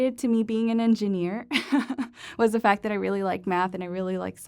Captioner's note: laughter